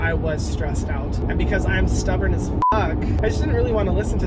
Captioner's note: beep